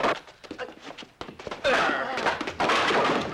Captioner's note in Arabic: خرخرة